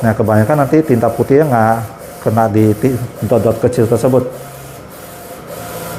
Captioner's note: printer machine noise